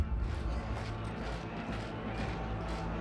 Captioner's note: sound of marching